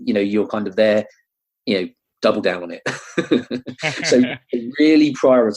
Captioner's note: laughing